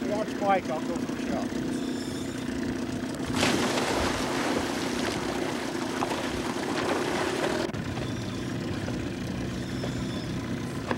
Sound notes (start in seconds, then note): 3.2 splash; 6.2 boat motor humming